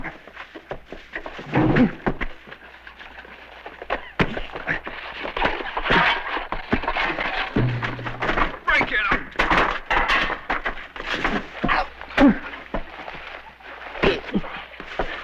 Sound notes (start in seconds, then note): 9.6 clattering; 12.2 grunting and thudding